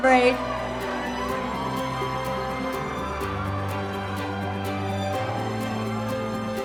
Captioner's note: group cheers; uplifting music